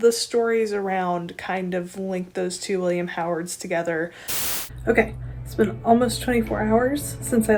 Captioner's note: static